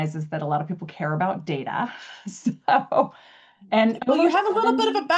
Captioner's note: laughs